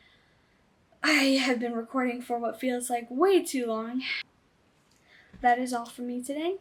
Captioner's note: sighs